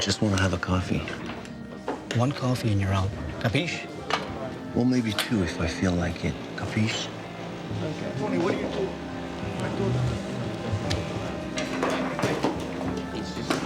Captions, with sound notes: We just want to have a coffee. - One coffee and you're out, capiche? - Well, maybe two if I feel like it, capiche? (people chattering) (light music)